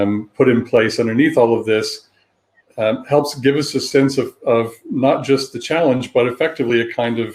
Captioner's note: erm